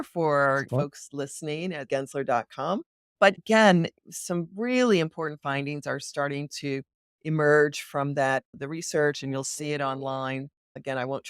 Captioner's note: laughs